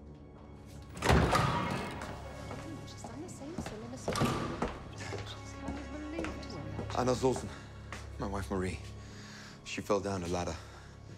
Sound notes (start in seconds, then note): 0.8 doors creak; 2.1 hushed chatter